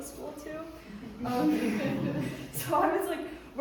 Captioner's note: audience laughing